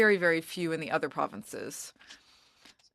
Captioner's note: speaking french